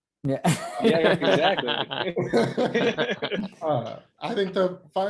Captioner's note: laughter